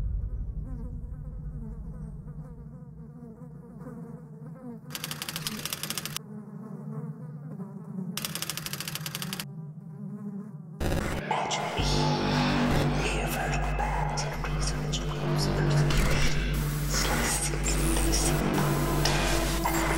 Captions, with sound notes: (flies buzzing) (typewriter clicking) (ominous music) (demonic whispering) - Imagine me, mere vertical bands yet razor-edged waves of persecution. Slicing and dicing thought,